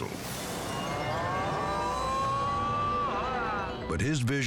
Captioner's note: bystanders exclaiming